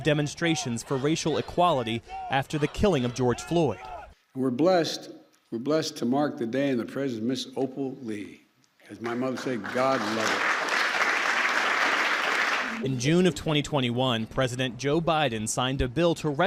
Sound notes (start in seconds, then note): 9.0 applause